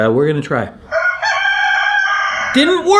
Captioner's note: rooster crowing